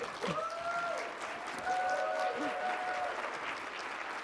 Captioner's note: audience clapping